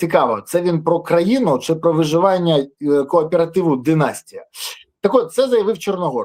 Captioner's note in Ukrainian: сопіння